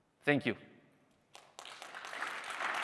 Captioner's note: applause